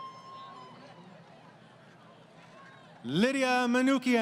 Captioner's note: crowd Cheering